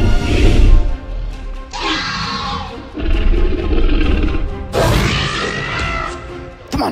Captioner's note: Velociraptor screeches